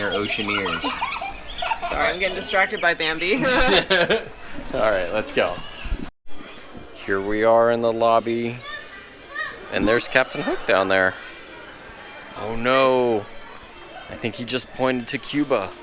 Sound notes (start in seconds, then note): 3.5 laughing